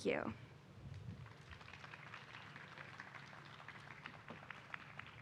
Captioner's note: applause